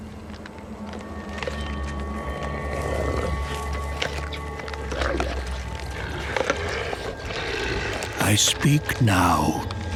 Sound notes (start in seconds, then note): 2.1 grisly crunching; 5.9 growling